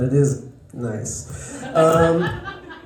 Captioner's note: laughter